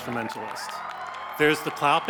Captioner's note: audience applauds